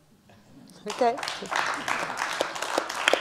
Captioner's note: applause